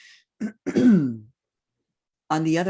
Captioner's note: clears throat